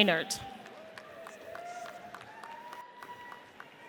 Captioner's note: audience applauds